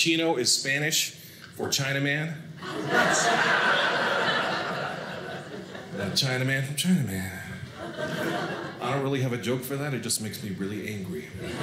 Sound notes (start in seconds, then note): 2.6 audience laughing